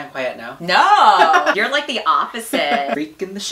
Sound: laughs

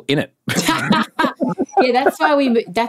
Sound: laughing

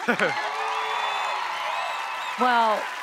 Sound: chuckles; audience cheering; audience clapping

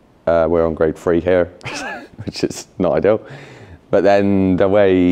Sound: chuckles

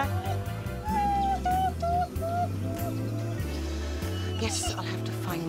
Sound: sobbing

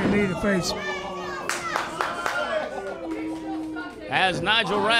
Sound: clapping

